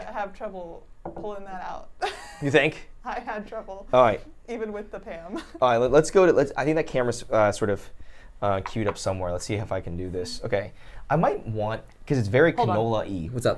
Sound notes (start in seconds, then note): 2.0 laughs; 5.9 laughs